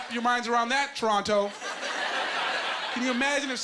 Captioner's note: laughing